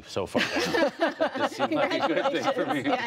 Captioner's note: laughter